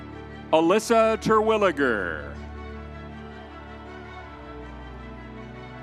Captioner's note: crowd cheering